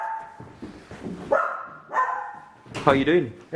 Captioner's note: dog barking